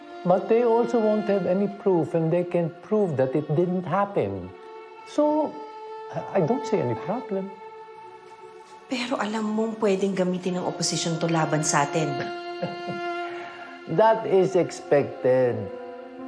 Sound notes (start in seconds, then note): 12.6 chuckles